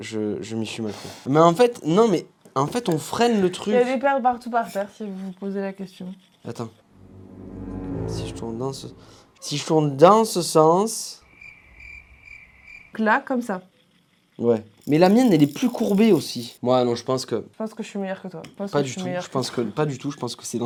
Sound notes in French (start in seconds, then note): 11.2 bruit de grillons